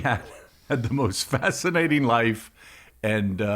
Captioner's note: laughs